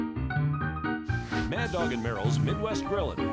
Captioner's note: loud sizzling